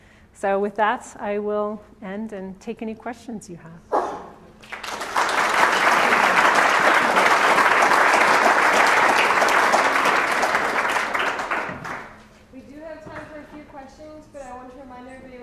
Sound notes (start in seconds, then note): 4.6 applause